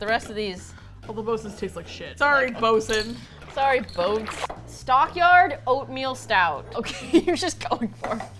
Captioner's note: laughs